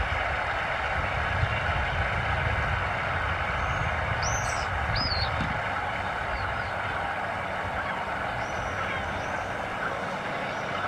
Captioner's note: applause